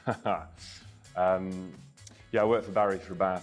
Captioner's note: Peter laughs